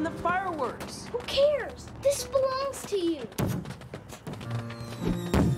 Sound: fireworks Exploding

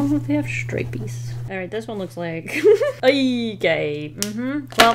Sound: laughs

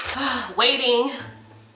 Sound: sighs

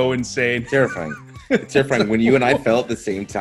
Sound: laugh

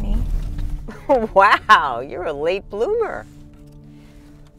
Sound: chuckling

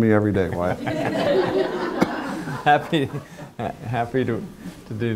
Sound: laughter

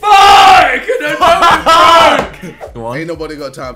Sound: laughing

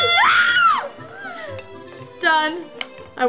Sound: yelps

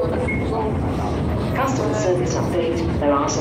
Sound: automated announcement

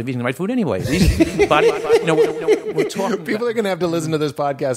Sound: laughing

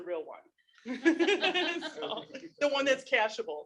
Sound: participants laughing

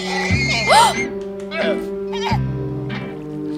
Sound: chuckling; gasping

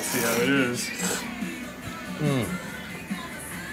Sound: slurps

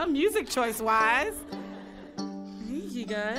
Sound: audience laughing

